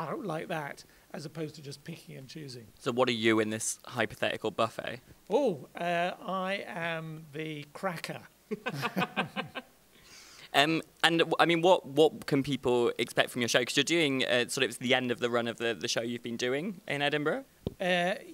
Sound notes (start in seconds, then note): 8.5 laughs